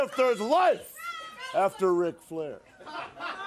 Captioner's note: crowd chatter